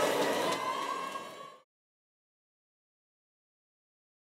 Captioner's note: cheers